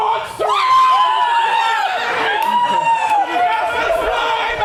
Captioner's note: actors scream